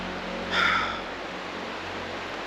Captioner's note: sighs